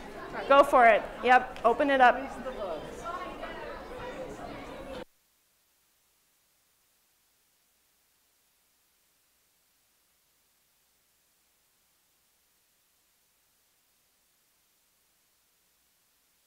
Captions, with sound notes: Go for it. Yep, open it up. Release the bugs. [CHATTERING]